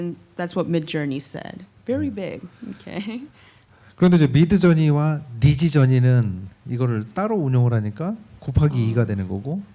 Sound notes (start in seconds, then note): 3.8 speaking korean